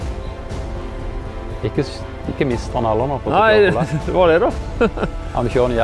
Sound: giggle

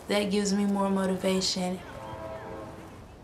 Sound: train horn blaring

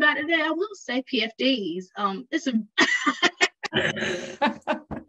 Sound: laughs

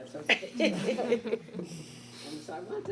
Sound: chuckles

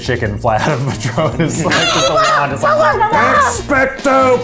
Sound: laughs; clucking

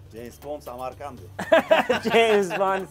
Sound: laughing

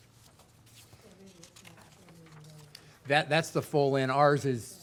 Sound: speaking off mic

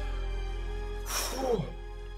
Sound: phuuu

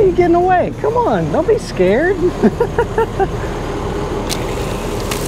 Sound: Jack laughs

